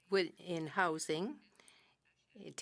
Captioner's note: speaking french